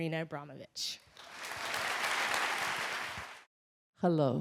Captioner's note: crowd clapping